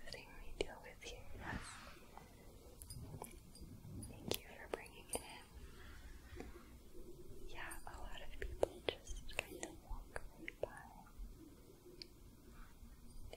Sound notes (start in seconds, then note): 2.7 jingling